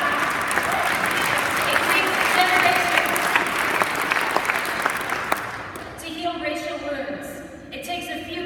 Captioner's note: applause